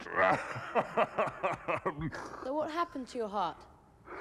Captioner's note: laughing